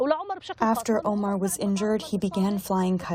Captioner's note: through translator